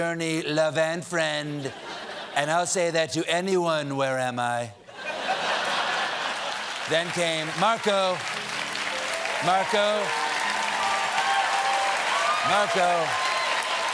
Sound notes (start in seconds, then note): 6.7 applause